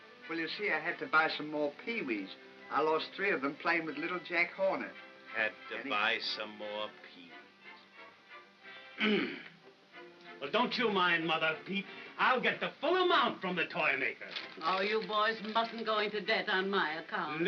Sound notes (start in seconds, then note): 9.0 Ollie grunts